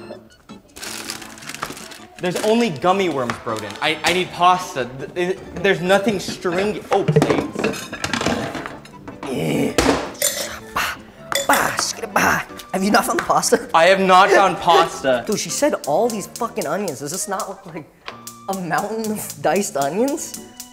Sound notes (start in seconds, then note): 0.2 upbeat music; 8.0 clanking